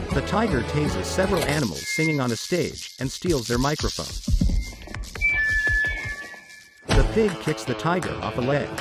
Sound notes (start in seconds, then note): 1.0 electricity sizzles; 1.6 microphone feedback